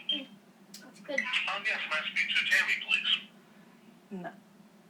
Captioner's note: voice On Phone